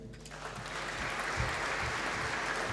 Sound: applause

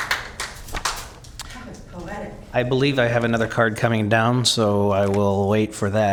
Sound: cheers and applause

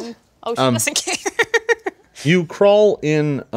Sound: woman laughs

